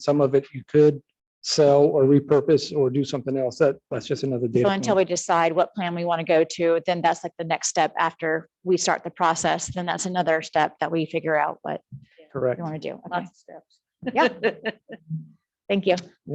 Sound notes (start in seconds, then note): 13.0 indistinct chatters; 14.0 laughing